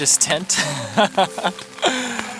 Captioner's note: laughs